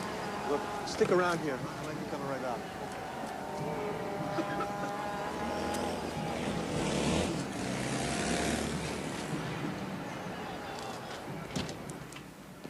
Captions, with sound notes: >> Stick around here. I might be coming right back. [ Street sounds ]